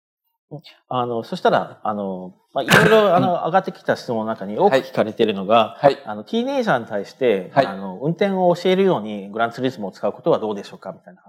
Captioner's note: speaking japanese